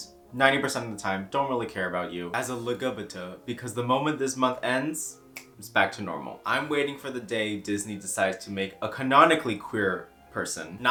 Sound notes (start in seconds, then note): 5.3 snaps